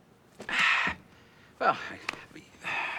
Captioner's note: sighs